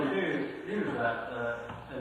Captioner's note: laughs